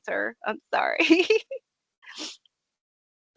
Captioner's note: laughing